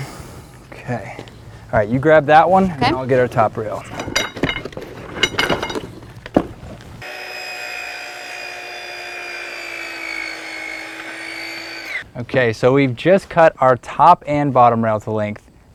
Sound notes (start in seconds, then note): 7.0 high-pitched pinging of aluminum balusters, saw whirring, no additional audio